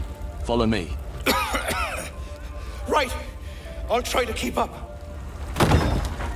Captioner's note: coughing